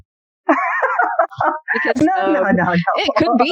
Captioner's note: laughter